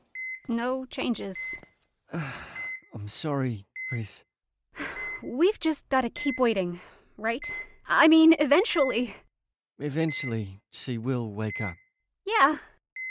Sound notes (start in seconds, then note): 2.1 sighs